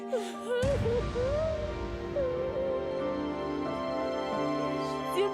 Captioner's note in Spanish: llanto de sara